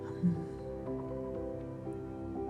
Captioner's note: contemplative exhaling